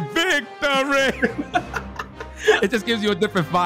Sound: laughing

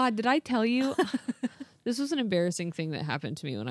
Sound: laughs

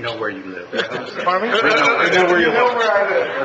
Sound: laughing

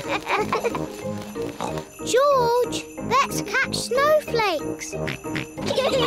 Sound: snorts; both giggle

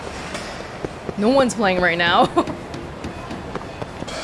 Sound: chuckles

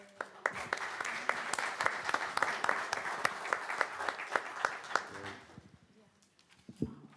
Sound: applause

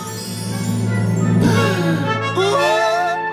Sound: gasping

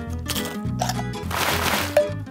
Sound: jar lid opening; chip crunching

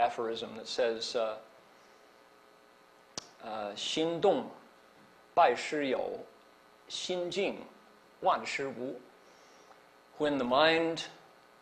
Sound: non-english

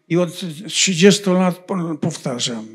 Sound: foreign language

